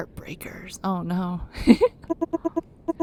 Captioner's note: laughs